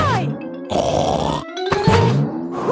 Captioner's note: snorts